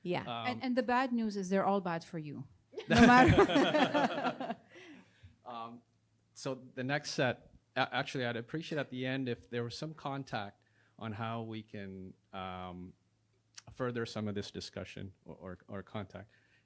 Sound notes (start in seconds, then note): 2.8 all laughing